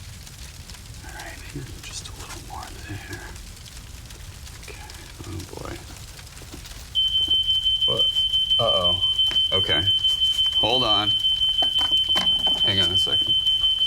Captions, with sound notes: All right, maybe just a little more there. Okay. Oh, boy. [Fire alarm blaring] What? Uh-oh. Okay. Hold on. Hang on a second.